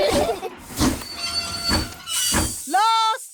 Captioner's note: laugh; train chugs